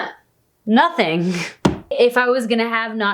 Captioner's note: bang